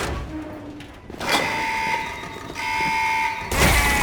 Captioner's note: alarm blaring